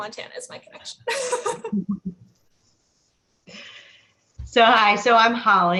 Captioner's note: laughs